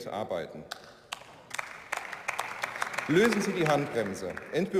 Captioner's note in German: Beifall